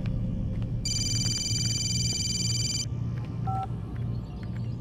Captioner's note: phone rings